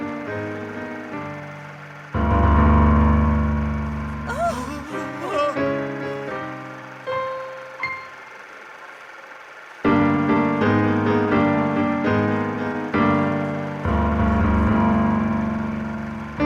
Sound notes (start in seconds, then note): 0.0 dramatic piano music; 4.2 audience member gasping; 5.9 dramatic piano music